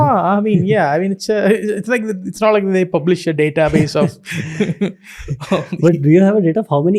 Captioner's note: chuckles